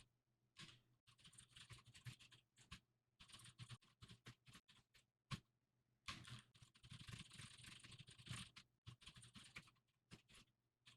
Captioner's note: typing sounds